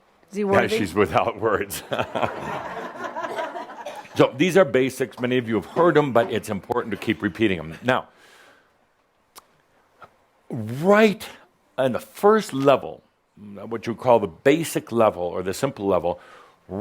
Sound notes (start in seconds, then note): 2.6 some chuckles